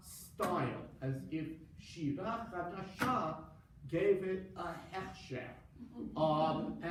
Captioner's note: foreign language